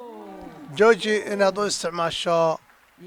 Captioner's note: cheers and applause